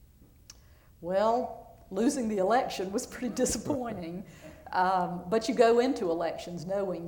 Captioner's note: laughter